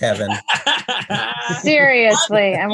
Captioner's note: laughs